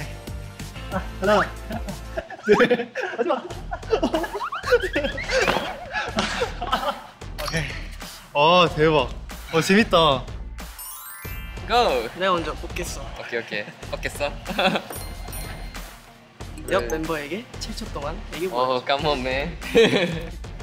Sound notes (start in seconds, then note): 4.4 laughing